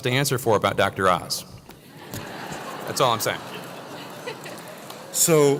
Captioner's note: laugh